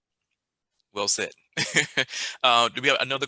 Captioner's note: laughs